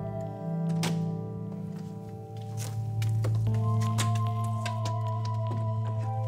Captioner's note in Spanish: sonido al abrir la puerta